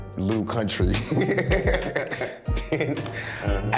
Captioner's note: laughs